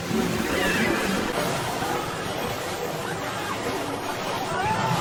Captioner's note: waves splashing